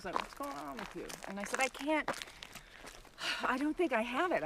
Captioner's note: exhales loudly